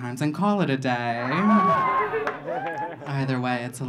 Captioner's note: audience laughing